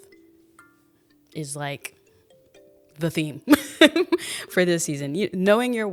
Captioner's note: laughs